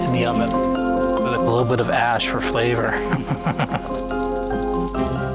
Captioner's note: laughs